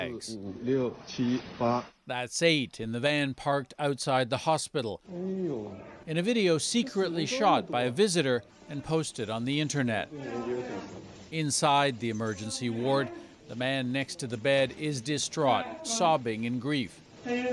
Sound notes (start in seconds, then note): 3.6 speaking foreign language